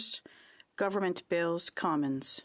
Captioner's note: speaking French